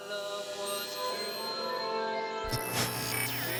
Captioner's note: static crackles